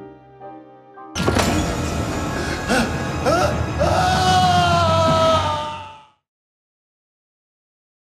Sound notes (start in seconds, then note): 3.2 man screaming